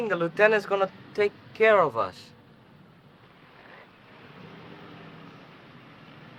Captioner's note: vehicle approaching